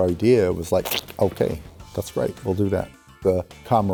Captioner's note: scoffs